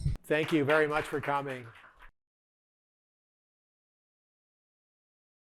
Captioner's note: participants clapping